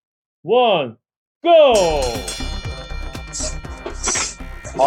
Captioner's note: bell ringing